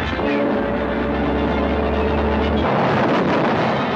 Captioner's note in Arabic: هدير المنطاد